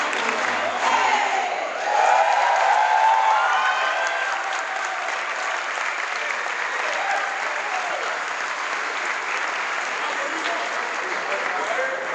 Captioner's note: crowd applause